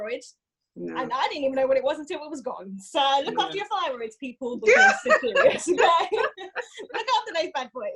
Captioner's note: laughs